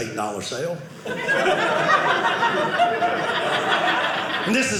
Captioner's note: audience laughing